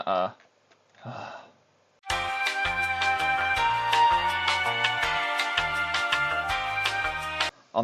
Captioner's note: sigh